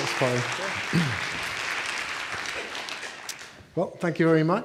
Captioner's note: with British accent; applause